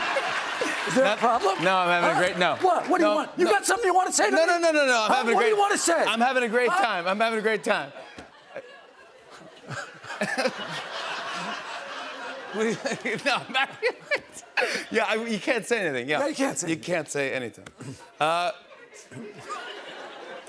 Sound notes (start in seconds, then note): 9.0 laughter